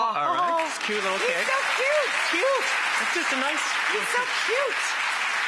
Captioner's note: audience clapping